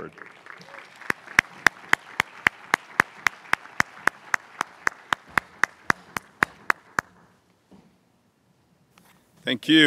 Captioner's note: applause